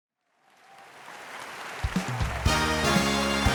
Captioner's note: audience applauds and cheers; emphatic music